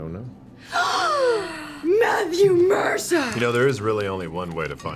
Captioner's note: gasps